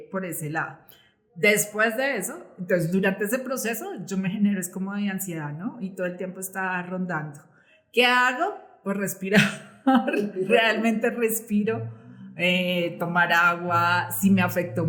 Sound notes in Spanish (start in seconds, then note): 9.3 risas